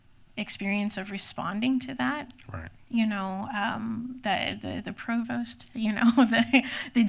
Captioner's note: laughs